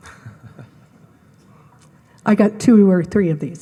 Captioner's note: laughs